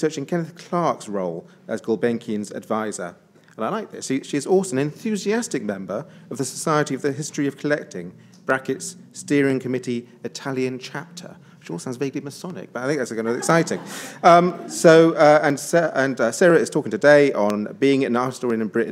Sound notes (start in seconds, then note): 13.2 attendees laughs